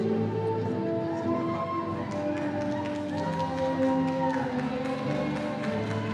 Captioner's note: audience cheering and applauding